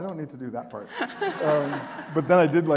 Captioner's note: audience laughing